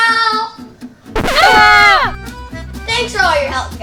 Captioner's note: screams